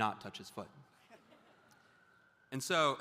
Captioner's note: audience laughs